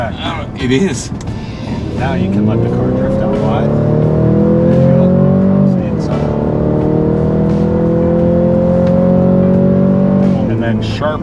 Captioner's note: engine roaring